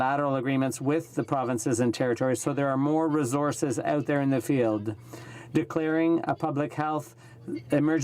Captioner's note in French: voix de l'interprte